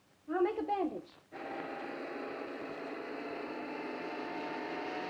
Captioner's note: car engine roars